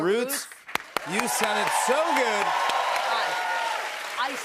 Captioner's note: cheers and applause